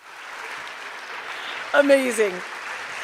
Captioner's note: cheers and applause